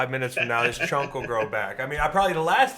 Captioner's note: George laughs